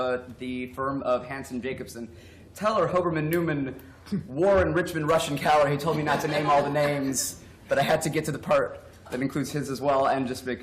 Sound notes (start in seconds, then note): 5.8 laughter